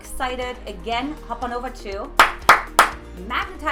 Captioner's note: claps